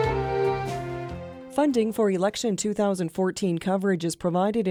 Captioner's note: voiceover